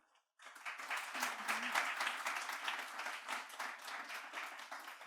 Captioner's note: audience clapping